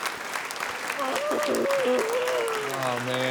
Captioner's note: groans